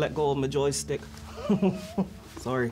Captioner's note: laughing